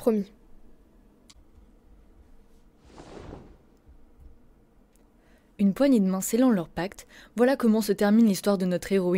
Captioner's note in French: Bruit de personnes qui se serrent la main